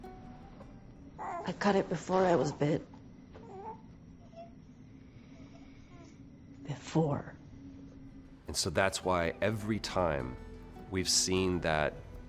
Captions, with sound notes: -(ELLIE COOS) -I cut it before I was bit. Before. And so that's why every time we've seen that